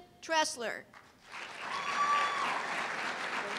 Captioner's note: cheers and applause